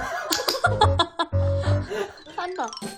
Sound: laughing

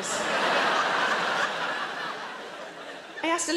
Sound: audience laughing

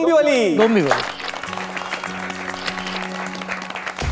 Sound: clapping

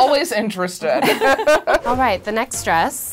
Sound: laughing

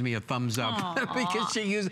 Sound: laughter

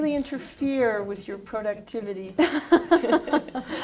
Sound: laughter

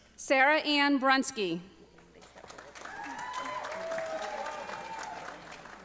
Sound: audience applauding

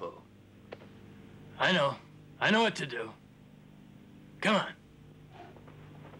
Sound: none

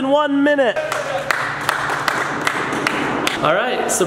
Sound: cheering

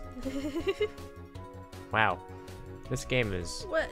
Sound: laughs

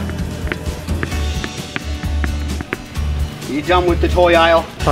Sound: balls thumping

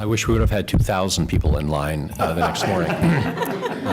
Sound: laughter

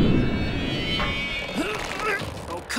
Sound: grunting

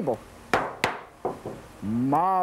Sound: wooden banging

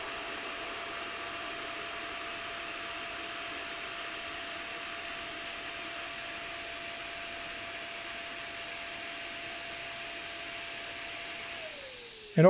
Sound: fan whirring

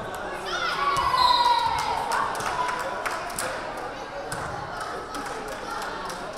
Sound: crowd cheering; whistle blaring

